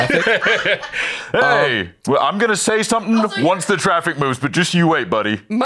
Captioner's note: laughs